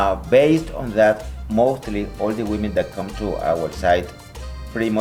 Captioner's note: Latin